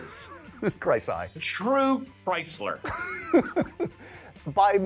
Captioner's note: laughs; laughing